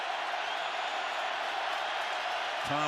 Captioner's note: crowd cheering